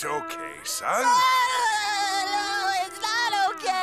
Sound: crying

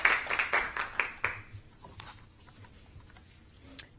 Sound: applause

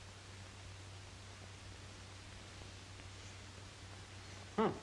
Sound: none

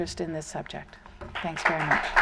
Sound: applause

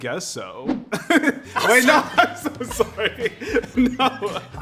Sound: laughs

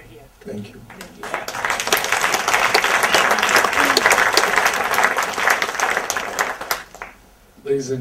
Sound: audience applause

